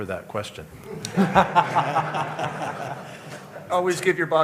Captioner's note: laughter